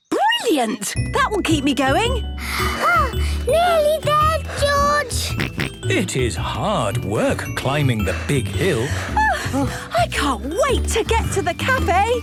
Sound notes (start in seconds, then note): 4.2 panting; 4.5 snorts